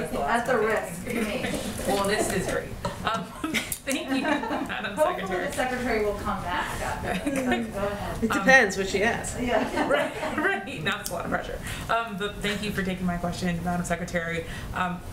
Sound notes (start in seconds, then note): 3.1 laughter; 9.4 laughs; 9.5 laughter